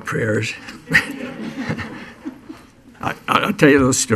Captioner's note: laughing